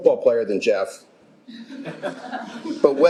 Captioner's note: laughter